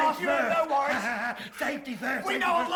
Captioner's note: laugh